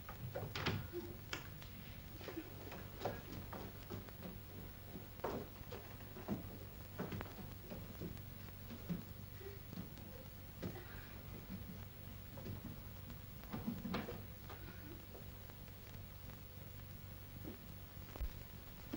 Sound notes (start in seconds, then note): 0.3 doors open; 2.1 brisk footsteps up stairs; 6.8 slow footsteps up stairs